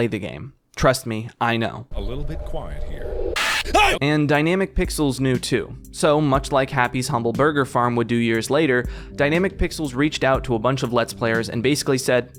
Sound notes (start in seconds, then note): 3.3 loud jumpscare and scream